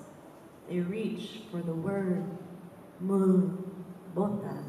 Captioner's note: none